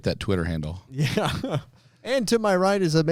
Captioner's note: laughs